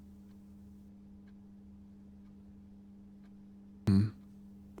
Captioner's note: silence